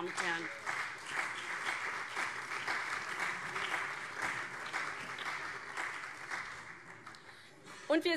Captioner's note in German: Beifall CDU, SPD und BÜNDNIS 90/DIE GRÜNEN